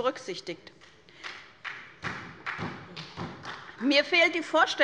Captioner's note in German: Beifall bei der SPD